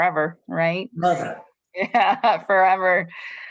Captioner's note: laughter